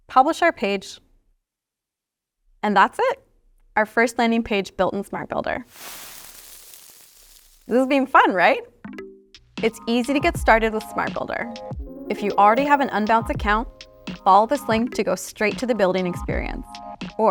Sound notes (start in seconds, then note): 5.6 confetti rustling